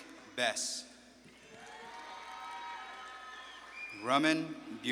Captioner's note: audience claps and cheers